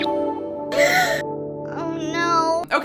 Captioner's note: gasp